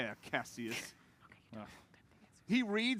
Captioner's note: whispers